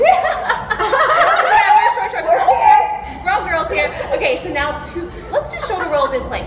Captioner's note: laughs